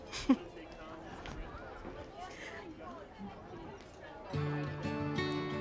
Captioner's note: chattering continues; upbeat music